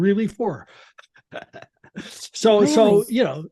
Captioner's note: laughs